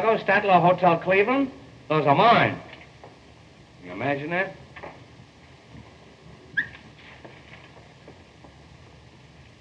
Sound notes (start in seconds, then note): 6.6 whistles